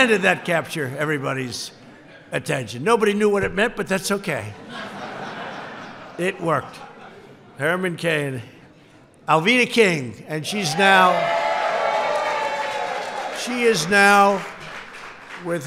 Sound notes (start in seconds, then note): 4.5 laughter; 10.9 applause